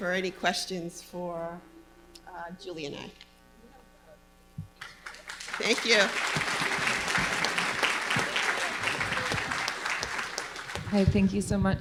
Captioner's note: applause